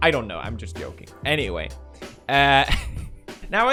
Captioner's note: funny laugh